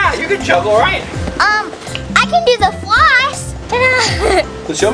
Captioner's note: laughs